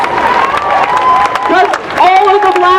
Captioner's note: cheering